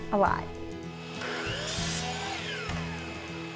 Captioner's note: saw whirring